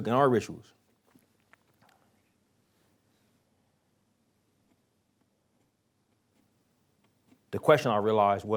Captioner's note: pause